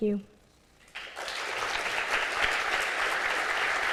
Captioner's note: applause